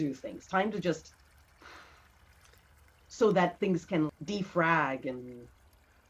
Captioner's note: exhales